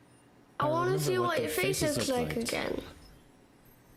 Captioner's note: child's voice